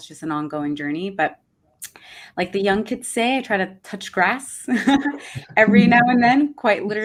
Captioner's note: chuckles